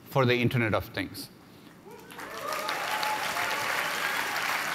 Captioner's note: applause